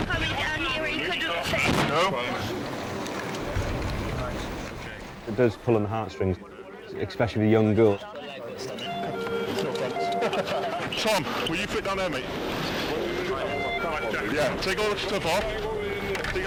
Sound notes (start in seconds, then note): 8.9 laughs